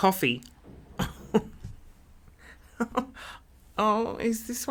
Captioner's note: laughing